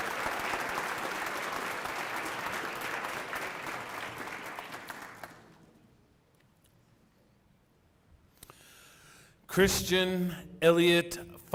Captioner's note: applause